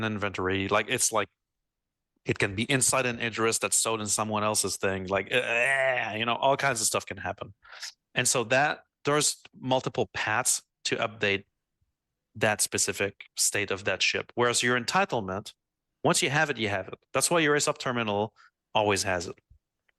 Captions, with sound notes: inventory, like it's like, it can be inside an address that's stowed in someone else's thing, like, (groans) you know, all kinds of stuff can happen. And so that, there's multiple paths to update that specific state of that ship. Whereas your entitlement, once you have it, you have it. That's why your sub terminal always has it.